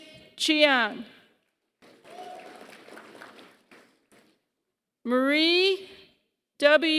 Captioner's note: applause